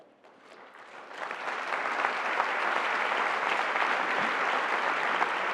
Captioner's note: applause